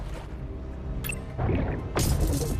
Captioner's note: remote beeps